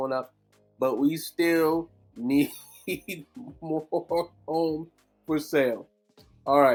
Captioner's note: laughing